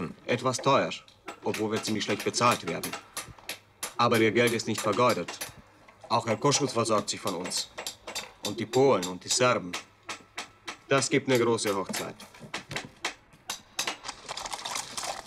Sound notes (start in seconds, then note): 1.0 in German; 9.3 in German; 12.0 in German